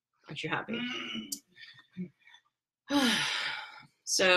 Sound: sighs heavily

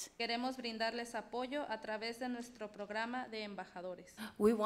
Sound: speaks foreign language

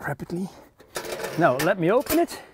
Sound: stove door clinking

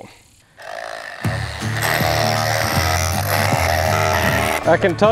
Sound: drilling clatter

